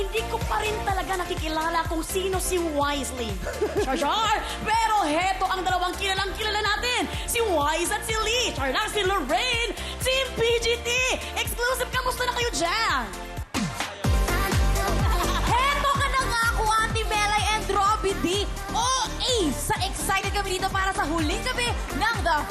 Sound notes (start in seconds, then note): 3.4 laughs; 13.9 upbeat music playing